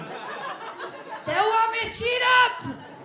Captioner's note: audience laughs